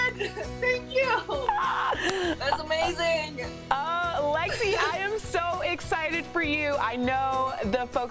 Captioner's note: laughter